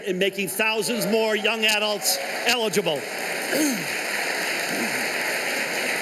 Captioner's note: applause